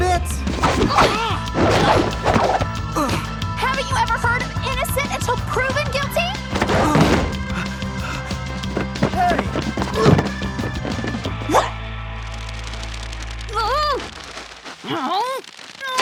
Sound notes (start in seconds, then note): 8.6 grunting